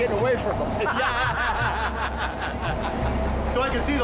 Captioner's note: laughs